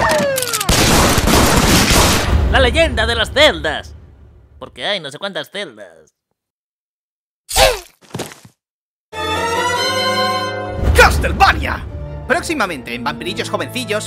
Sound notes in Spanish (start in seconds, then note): 7.5 Sonido de muerte estúpida